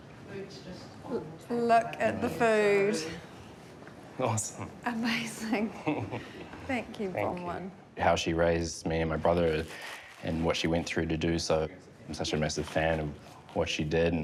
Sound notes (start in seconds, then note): 5.8 chuckles